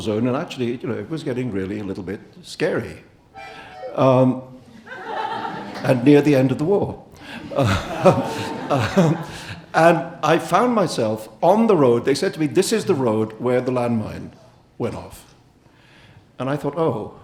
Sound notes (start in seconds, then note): 3.3 harmonica plays; 3.7 audience laughing; 7.2 audience and Salman laughing